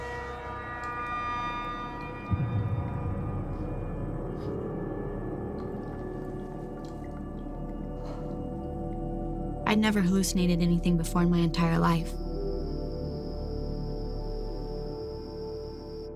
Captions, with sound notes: I never hallucinated anything before in my entire life. [insects trilling]